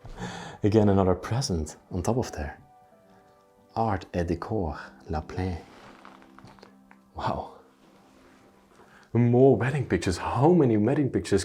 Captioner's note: speaks French